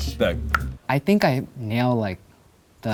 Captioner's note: tongue click